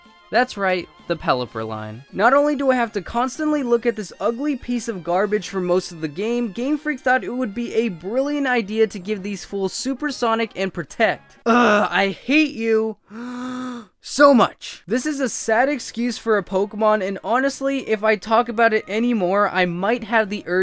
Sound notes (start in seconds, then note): 13.0 breaths in